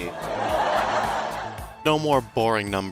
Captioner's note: laugh track SFX